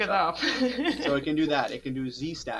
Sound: speaker laughing

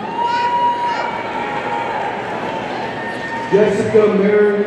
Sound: audience cheering

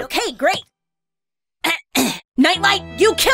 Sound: ahem

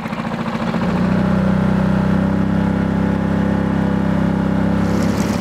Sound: boat engine humming

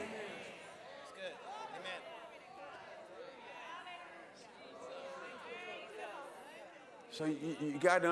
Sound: congregation praising

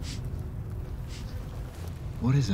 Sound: flies buzz

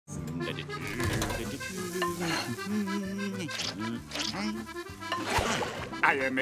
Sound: humming

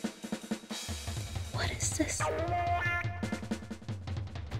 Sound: whispers

